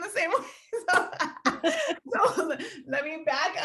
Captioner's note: laughing